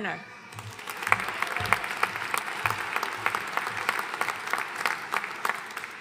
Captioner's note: audience cheering and applauding